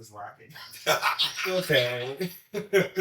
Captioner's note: all laugh